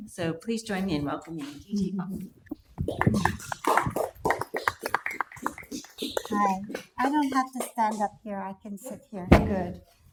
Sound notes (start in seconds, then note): 2.9 audience applauding